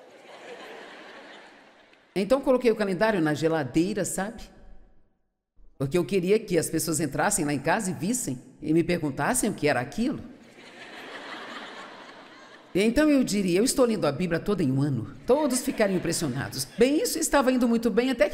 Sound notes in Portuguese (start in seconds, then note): 10.5 público rindo